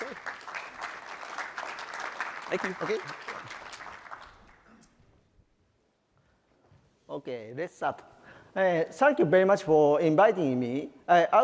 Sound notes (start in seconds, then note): 0.0 applause